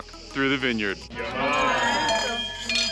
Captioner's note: all cheering